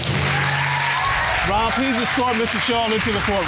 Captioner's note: audience applauds